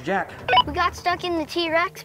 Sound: walkie-talkie beeps

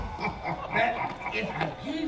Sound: chuckles deeply

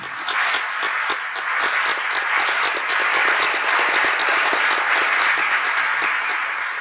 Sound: audience clapping

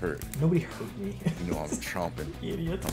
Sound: laugh

